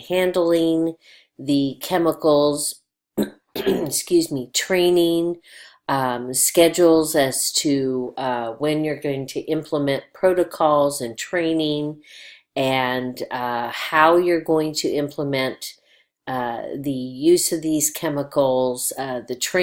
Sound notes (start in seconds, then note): 3.5 clears throat